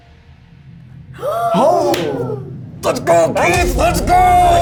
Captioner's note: crew gasps